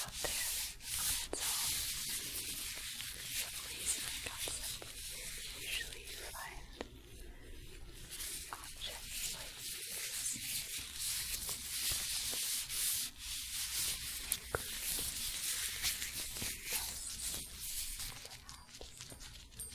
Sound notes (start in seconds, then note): 10.6 glove sounds